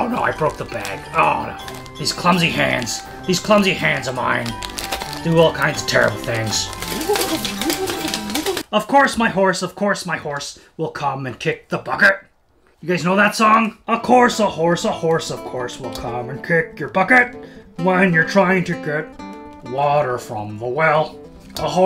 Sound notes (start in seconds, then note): 6.7 armor clattering